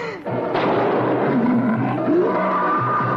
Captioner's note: gunshot and growling